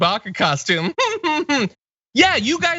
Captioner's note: laugh